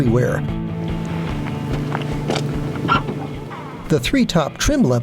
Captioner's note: trunk opening sfx